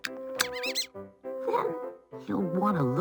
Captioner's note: mouse squeaking